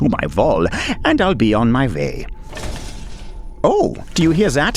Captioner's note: roaring in the distance